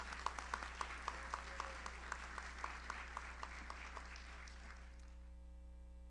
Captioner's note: audience applauds; audience member cheers